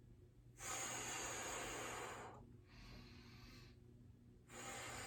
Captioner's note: exhaling